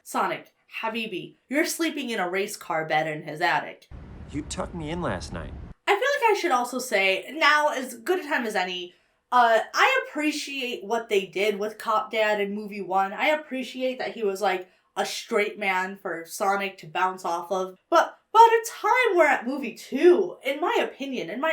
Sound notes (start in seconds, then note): none